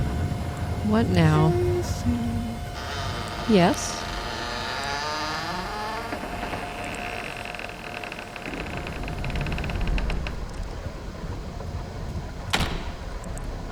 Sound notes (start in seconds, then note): 0.1 computer static; 4.1 door creaks open